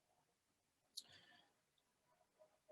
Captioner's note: none